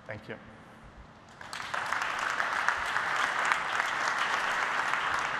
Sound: applause

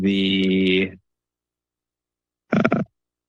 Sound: pause

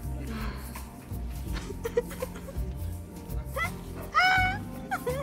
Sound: cries

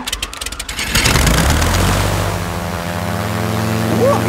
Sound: plane humming

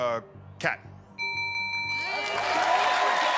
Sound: bell rings

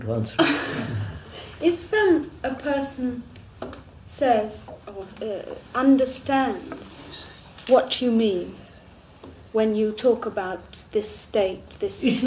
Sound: laughs

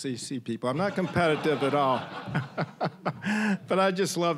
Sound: audience laughing

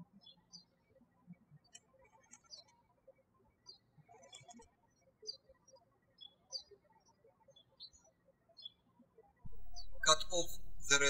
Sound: birds chirping

